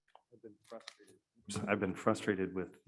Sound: none

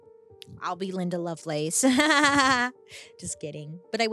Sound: chuckles

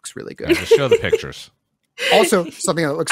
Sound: laughs

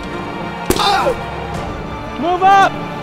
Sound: blow thudding; man cries out

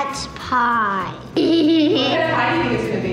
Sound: giggling

